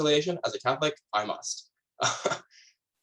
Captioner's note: laughs